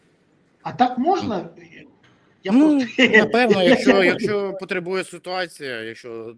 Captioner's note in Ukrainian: сміх